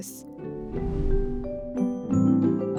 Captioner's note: gentle upbeat music; screen whooshes